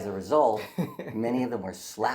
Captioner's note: giggles